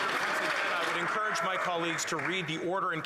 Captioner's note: applause